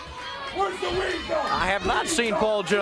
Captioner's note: crowd chatter